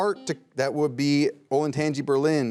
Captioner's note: buzzer beeps